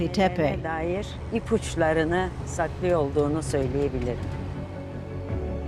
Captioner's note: speaking Turkish